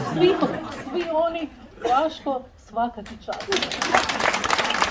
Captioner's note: applause…